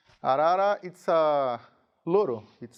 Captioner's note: speaking in a foreign language